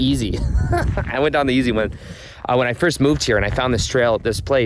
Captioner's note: laughs